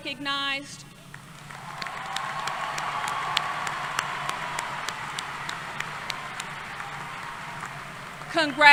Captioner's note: applause